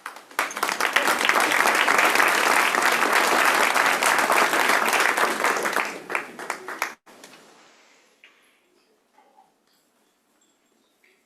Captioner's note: applause